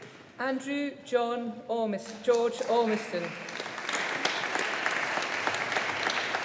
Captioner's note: audience applauding